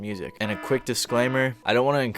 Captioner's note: alarm buzzing